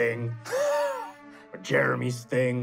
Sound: laughs

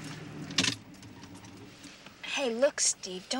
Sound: car turns off

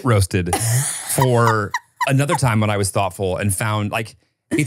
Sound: laughs

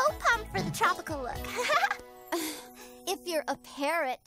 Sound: scoffs

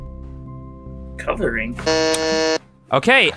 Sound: buzzes

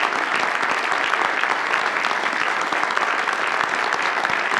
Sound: audience applauds

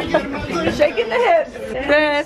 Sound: laughs

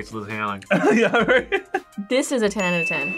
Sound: laughs

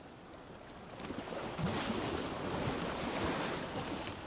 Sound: waves crash

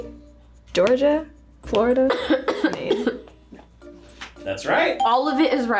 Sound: coughs

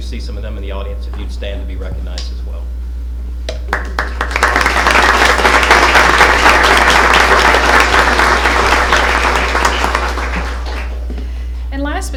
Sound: applause

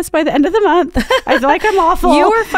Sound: laughing

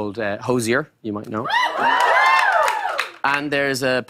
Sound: cheers and applause

